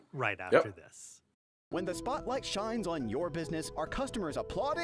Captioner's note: voiceover